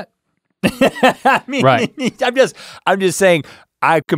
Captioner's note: guffaws